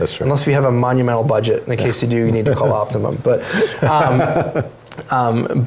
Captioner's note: laughs